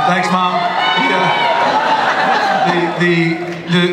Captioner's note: laughter